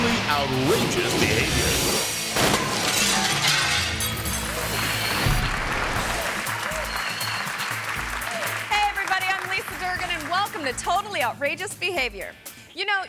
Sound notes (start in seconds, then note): 2.0 glass shattering; 4.9 audience clapping and cheering